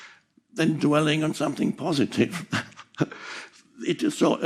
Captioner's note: chuckles